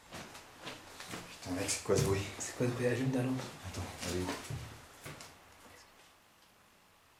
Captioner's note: speaking French